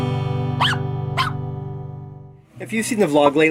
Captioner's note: barks